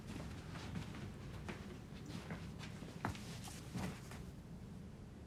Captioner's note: footsteps tapping